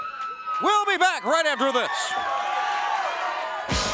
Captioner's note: crowd cheering